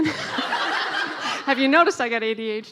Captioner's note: laughing